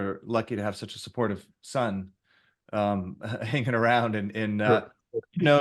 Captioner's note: laughs